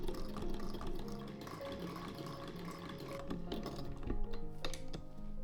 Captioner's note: mechanical whirring